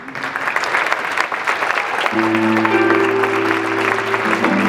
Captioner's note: audience clapping; jazz music